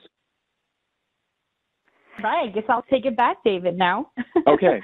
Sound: laughs

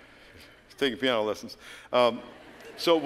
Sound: laughter

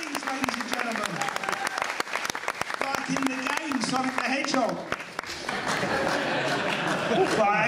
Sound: laughter

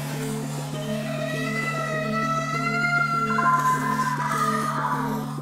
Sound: distorted screaming

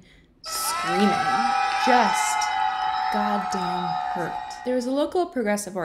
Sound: crowd yelling

